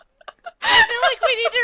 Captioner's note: laughter